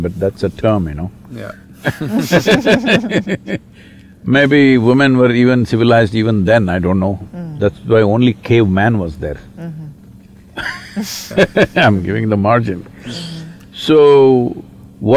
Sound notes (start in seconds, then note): 1.8 laughter; 10.6 laughs